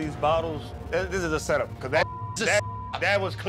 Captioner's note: beep